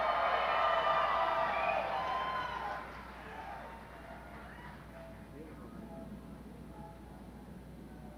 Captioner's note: audience cheers